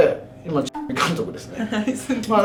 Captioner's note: laughs